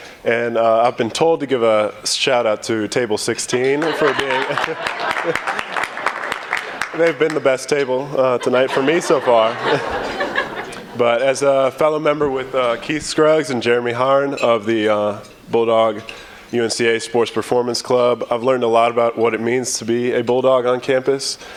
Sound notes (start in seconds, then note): 3.6 laughter and clapping; 8.2 laughter